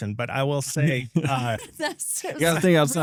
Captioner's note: laughing